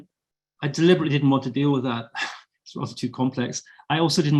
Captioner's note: sigh